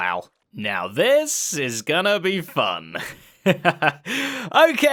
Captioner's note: chuckles